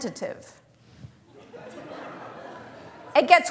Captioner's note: laughter